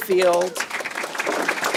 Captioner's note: applause